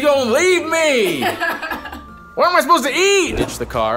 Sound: laughs

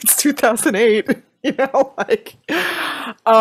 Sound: laughs

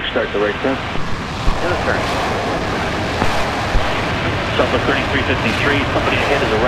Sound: air traffic chatter

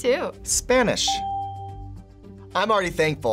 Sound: bell rings

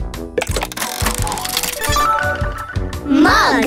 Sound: tile clicking; bells chiming

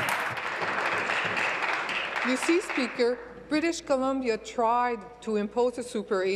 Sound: applause

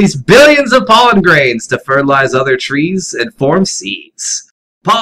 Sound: cutesy voice

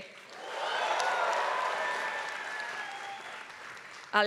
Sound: applause

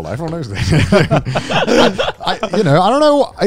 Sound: everyone laughs

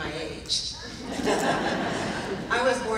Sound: laughing

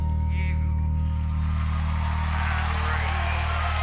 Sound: crowd applauds and cheers

